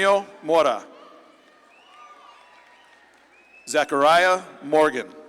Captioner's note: audience claps and cheers